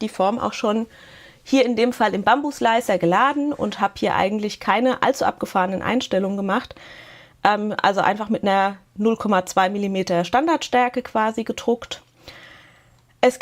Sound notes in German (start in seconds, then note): none